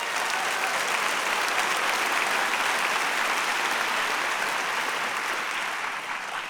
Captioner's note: audience cheering and applause